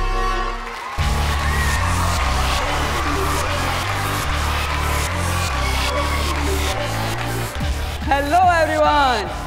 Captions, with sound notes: [cheering] Hello, Everyone!